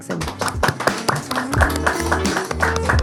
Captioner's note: audience applauding; upbeat music